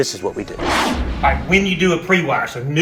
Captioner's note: intense whooshing